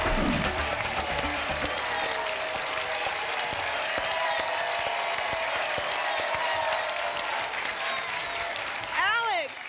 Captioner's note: applause and cheering cont